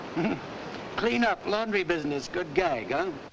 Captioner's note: chuckles